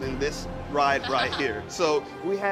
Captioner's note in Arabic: تضحك